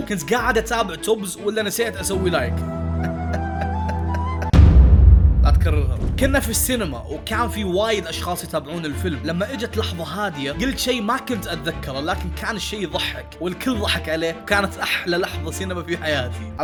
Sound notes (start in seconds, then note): 2.5 sad laughter